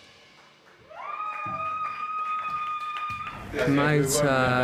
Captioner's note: audience cheering